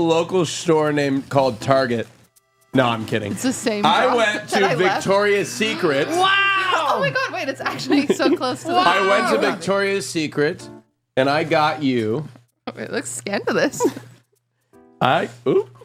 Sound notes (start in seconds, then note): 6.1 gasps